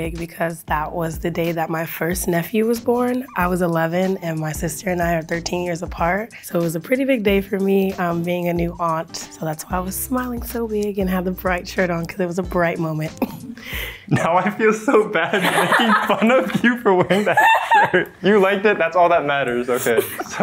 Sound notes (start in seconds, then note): 13.2 laughs; 17.5 laughing